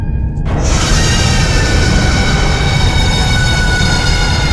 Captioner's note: creature screeching